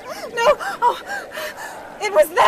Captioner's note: Kate gasping